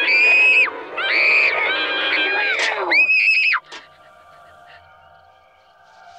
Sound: Marylee screaming

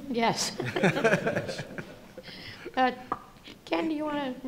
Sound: laughter

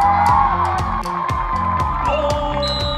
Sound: cheering

